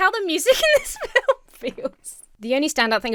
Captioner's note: Emma laughs